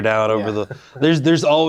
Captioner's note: laughs